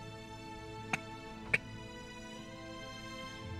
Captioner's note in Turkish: Öksürüyor